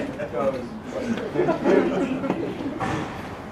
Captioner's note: laugh